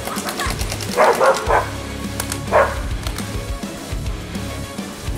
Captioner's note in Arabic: نباح كلب